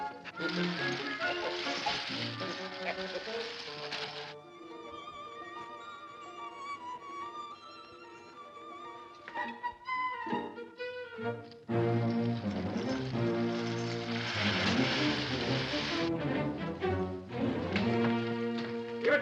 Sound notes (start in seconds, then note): 0.0 whimsical music; 0.3 coins clinking; 4.3 ominous music; 8.8 whimsical music; 14.0 coins clinking; 14.0 dramatic music